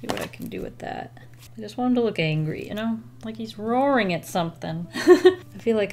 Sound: laughs

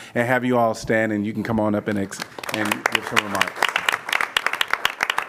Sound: applause

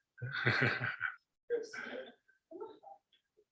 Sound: chuckles

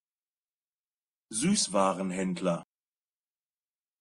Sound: fast Pronunciation

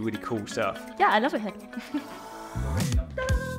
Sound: chuckles; upbeat music

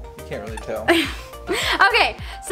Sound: laughs

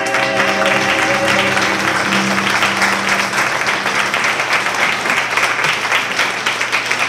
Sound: applause

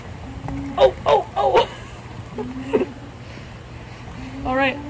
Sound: laughing

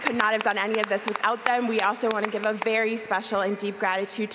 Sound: applause

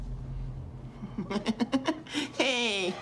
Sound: laughs

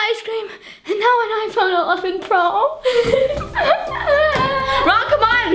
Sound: cries

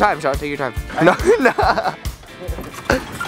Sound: laughs

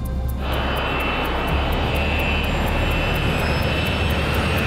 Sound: engine whooshing

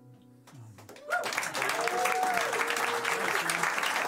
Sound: cheers and applause

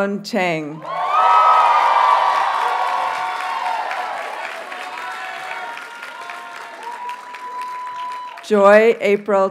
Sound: audience cheers and applauds

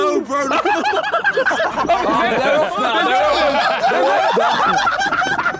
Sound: laughing hysterically

